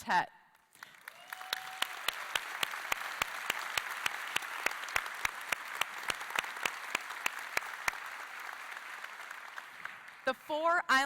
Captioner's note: applause